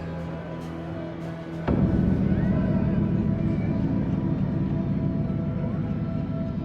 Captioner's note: indistinct chatter, traffic; somber music